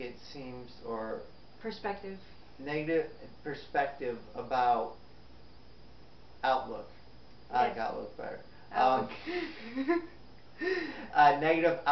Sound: both laugh

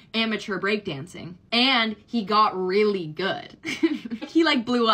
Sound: laughs

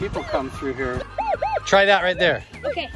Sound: metal detector beeps

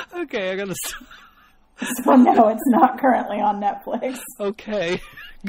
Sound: DJ laughs

